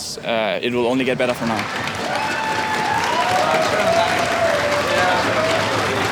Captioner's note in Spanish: Aplausos y vítores